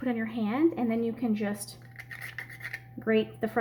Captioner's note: nutmeg grinding